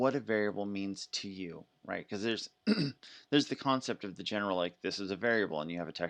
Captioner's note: coughs